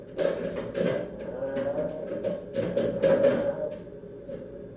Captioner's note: more deep voice gibberish